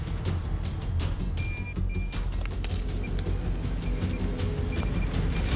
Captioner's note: beeping